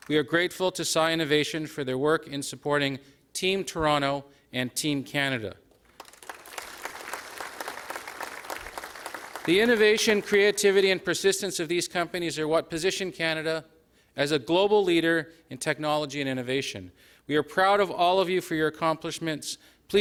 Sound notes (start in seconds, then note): 5.7 applause